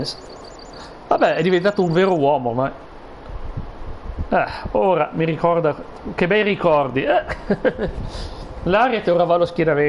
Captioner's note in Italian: sbuffare